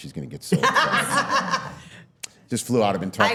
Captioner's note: all laughing